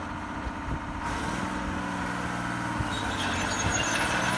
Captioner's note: tractor sound